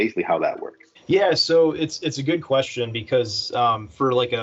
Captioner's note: deeply Voice